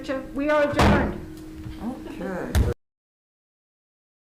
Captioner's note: gavel striking